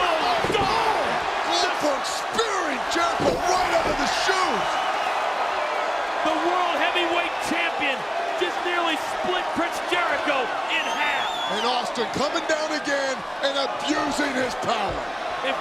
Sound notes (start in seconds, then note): 4.3 applause